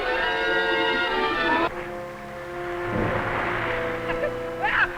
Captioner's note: laughter